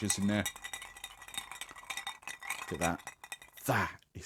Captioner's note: ice clinks against glass